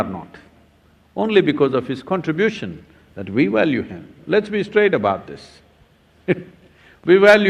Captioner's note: laughs